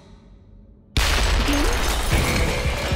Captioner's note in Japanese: 爆発音